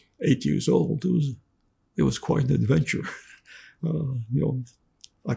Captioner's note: laughing